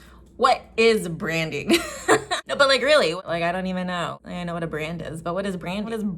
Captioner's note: giggle